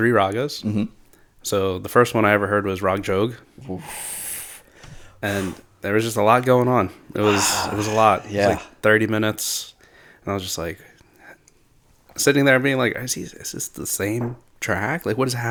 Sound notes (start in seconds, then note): 3.5 uff